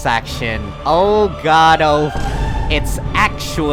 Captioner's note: vineboom